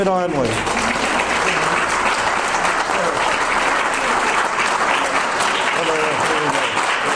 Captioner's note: audience applause